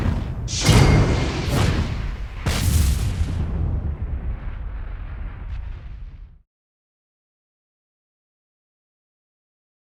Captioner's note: whooshing sounds